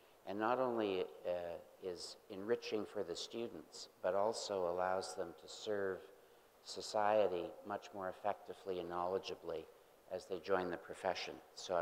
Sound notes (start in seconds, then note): none